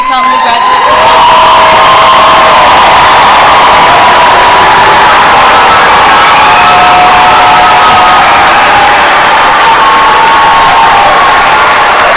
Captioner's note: applause